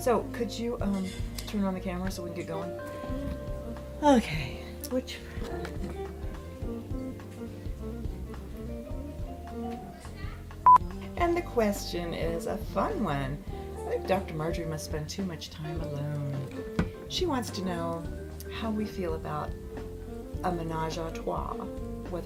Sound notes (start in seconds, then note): 10.6 beep